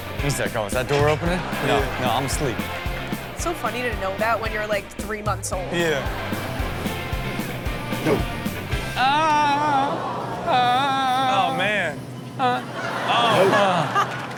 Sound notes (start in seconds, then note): 5.6 crowd laughs; 8.9 Rob fake cries; 12.4 crowd laughs